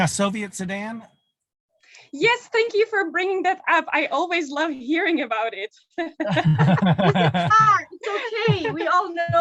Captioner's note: laughter